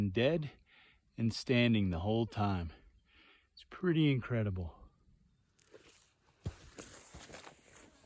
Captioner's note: feet brushing though grasses